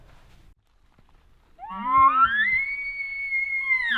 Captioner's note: caller bugling